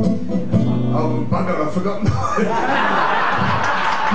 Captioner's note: laughter